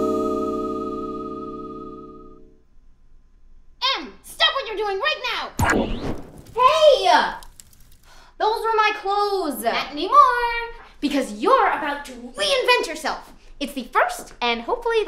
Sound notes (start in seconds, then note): 5.6 SFX: burning